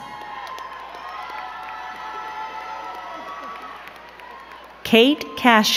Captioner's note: crowd cheering and clapping